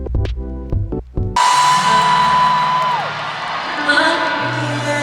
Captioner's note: CROWD cheering